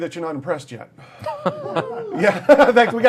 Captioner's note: laughter